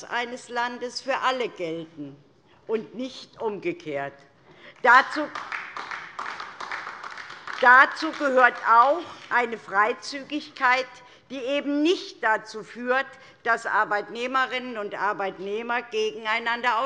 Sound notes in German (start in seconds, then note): 4.8 Beifall DIE LINKE